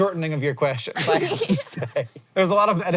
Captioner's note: BOTH chuckle